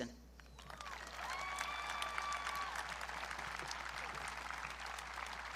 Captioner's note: audience cheering